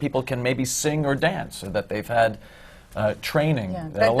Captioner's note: none